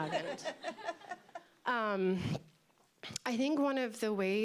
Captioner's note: laughter